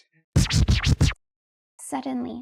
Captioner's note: old-school record scratch